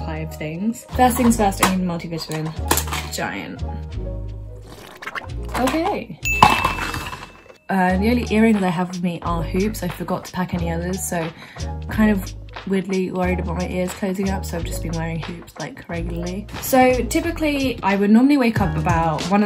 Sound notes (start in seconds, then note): 4.4 slurps; 6.2 bell dings